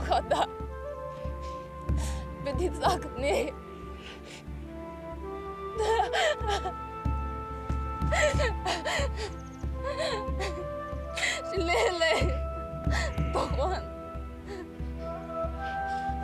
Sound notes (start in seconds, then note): 0.0 speaking native language; 5.8 crying; 12.4 speaking native language